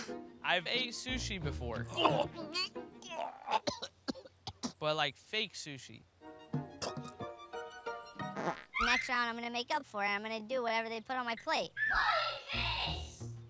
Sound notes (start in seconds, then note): 3.0 retching, coughing